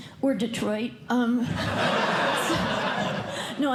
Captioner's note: laughter